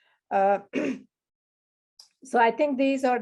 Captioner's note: clears throat